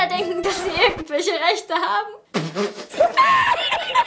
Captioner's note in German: Ruhige Musik; lachend; Prusten, Lachen